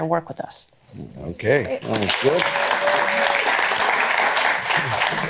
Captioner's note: applause